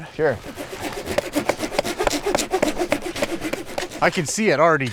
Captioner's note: saw grinding; knife pounding